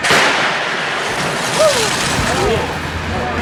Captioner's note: crashing